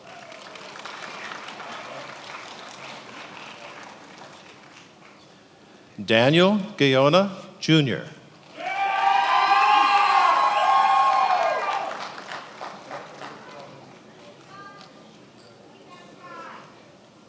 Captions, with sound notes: (attendees applauding) Daniel Goana, Jr. (attendees applauding and cheering)